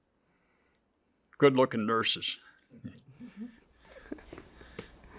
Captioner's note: chuckles